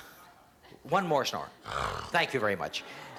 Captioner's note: snores